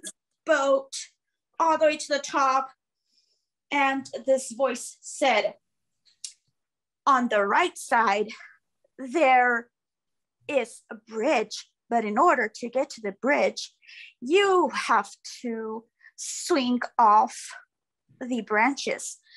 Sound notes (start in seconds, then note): none